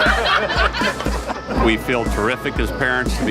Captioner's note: all laugh